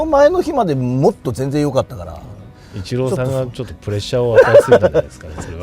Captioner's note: laughs